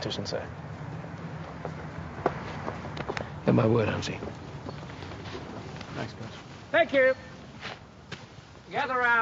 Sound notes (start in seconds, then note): 3.1 slapping